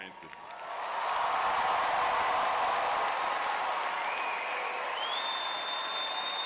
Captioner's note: audience cheering